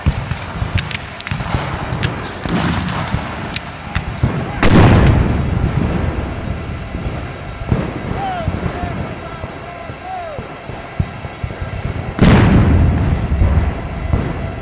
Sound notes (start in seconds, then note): 5.1 cannons fire